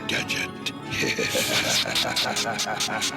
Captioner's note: both laughing